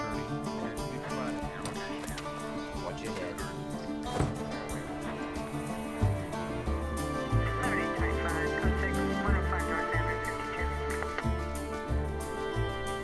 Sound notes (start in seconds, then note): 4.1 car door closes; 6.8 police radio chatter